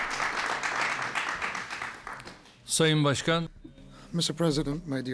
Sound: applause

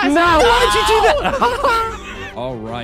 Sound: laughing

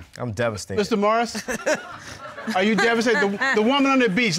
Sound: chuckles

